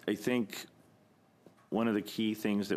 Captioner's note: speaking French